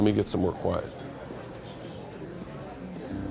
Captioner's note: crowd chatter; ominous music